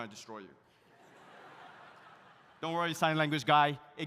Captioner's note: audience laughs